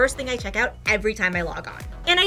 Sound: none

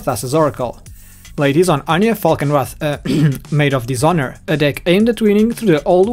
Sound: ahem

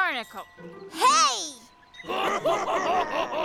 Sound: laughter

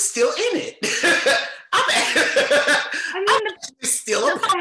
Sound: chuckles loudly

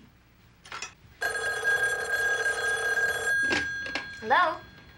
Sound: phone rings

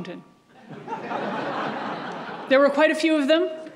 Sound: audience laughs

